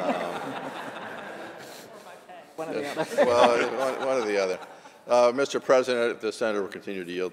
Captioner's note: laughter